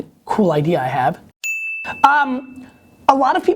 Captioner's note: ding